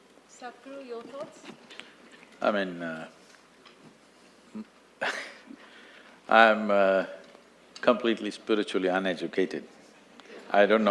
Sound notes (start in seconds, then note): 4.7 laughs